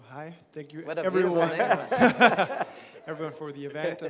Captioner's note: laughter